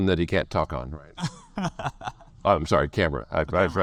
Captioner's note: laughs